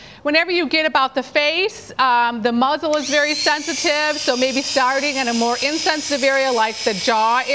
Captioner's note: clippers start buzzing